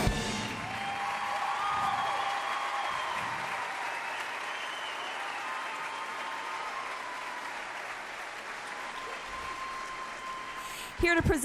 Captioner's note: cheers and applause